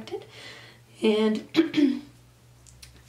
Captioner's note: clears throat